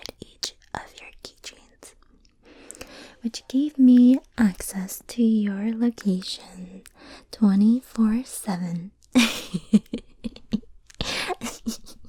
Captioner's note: crazy laugh